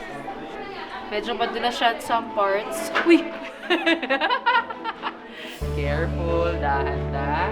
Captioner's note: laughs